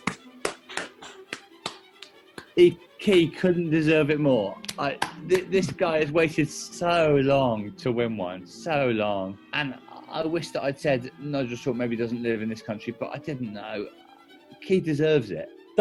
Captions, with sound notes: [APPLAUDING] Key couldn't deserve it more. [APPLAUDING] This guy has waited SO long to win one. So long. And I wish that I'd said Nigel Short maybe doesn't live in this country, but I didn't know. Key deserves it.